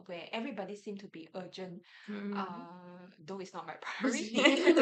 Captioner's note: everyone laughs